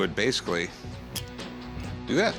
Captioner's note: clicks